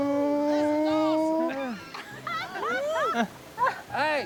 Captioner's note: family laughs